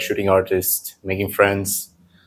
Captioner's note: none